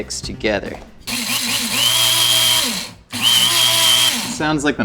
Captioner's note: blender whirls